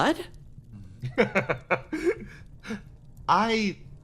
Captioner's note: laughs